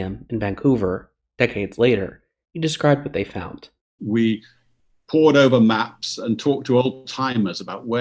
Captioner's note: cronk